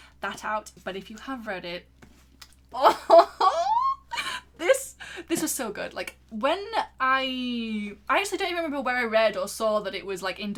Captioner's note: laughing